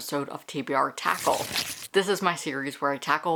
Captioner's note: paper Rip